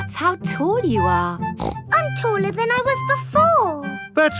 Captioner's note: snorts